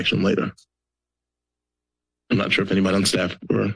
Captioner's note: pause